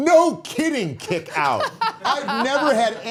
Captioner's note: all laughing